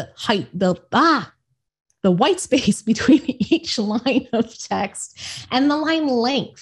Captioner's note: laughs